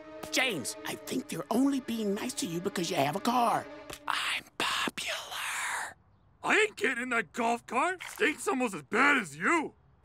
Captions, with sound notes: James, I think they're only being nice to you because you have a car. [whispers] I'm popular. I ain't getting in that golf cart! Stinks almost as bad as you!